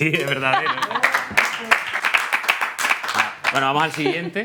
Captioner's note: applause